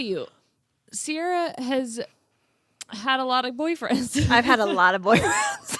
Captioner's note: laughs